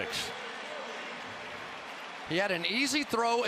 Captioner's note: pa announcement